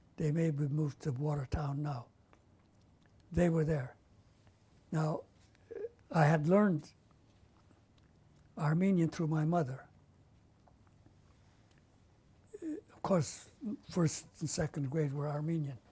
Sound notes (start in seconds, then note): 9.9 pauses for 3 seconds